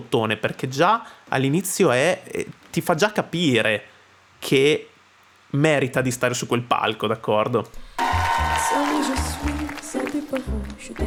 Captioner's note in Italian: Applauso